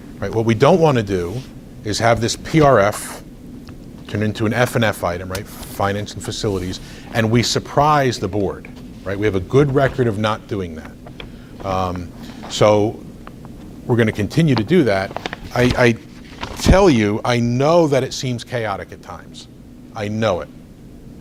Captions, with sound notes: What we don't want to do is have this PRF turn into an FNF item — Finance and Facilities — and we surprise the board. Right? We have a good record of not doing that. So we're going to continue to do that. I tell you, (rustles papers) I know that it seems chaotic at times. I know it.